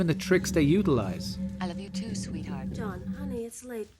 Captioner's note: fake voice